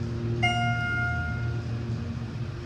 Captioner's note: ding